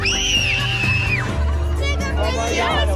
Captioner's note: screaming